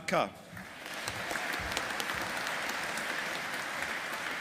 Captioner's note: audience applauding